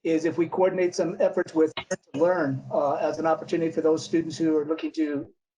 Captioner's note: audio glitch